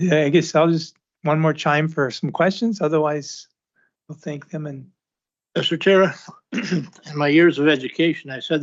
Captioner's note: clears throat